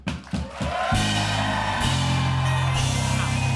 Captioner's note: cheers and applause